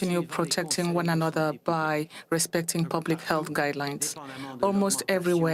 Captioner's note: speaking French